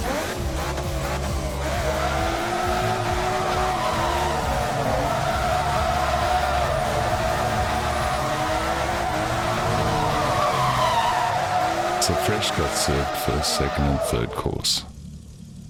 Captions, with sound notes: (car revs) (tires screeching) So Fresh got served first, second and third course.